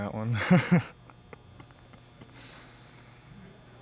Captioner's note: laughs